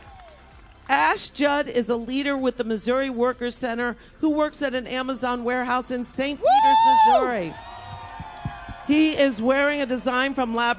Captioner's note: applause